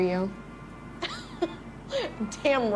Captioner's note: laughter